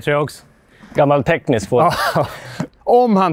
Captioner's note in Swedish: skratt